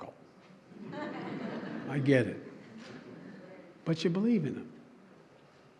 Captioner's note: laughter